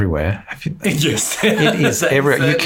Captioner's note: laughs